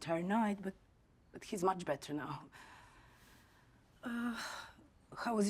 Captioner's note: exhales